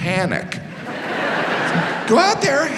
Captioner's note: audience laughs